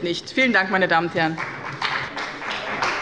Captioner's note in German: Beifall bei dem BÜNDNIS 90/DIE GRÜNEN und der CDU